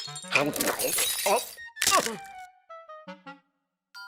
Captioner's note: glass shatters; gasps; teeth crumbling